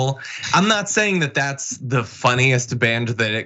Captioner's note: laugh